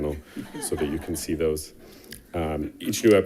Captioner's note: attendants laughing